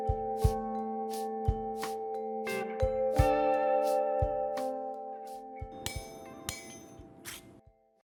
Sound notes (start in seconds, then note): 0.0 soft music continues; 5.8 metal clinking